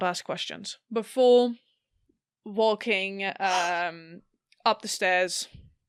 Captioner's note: Alyssa gasps